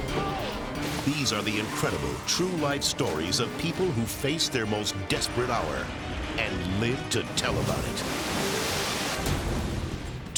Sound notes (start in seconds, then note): 7.5 water crashing; 9.2 explosion booming